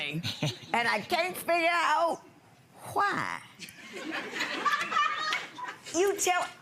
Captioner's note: laughing